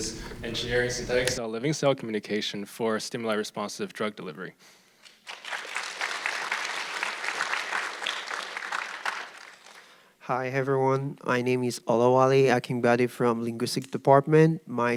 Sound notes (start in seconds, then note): 5.0 audience clapping